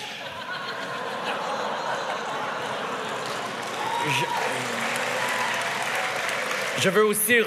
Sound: laughter

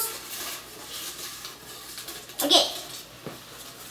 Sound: rustling

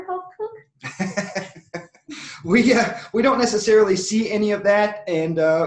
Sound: laughs

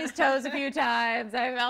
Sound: laughter

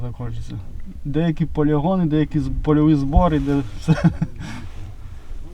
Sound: laughs

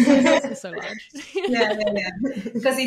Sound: chuckles

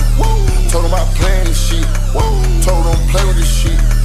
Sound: woo

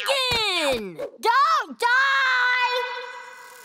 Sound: echoing

